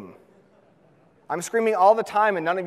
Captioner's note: audience laughs